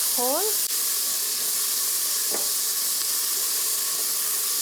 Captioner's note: loud sizzling noise